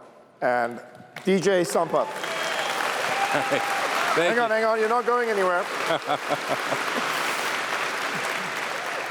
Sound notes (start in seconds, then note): 5.8 laughs; 7.9 applause